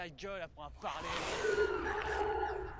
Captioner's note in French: cris inquiétants